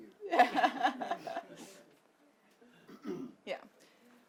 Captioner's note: laughs